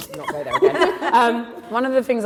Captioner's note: laughter